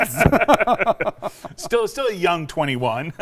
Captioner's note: both laugh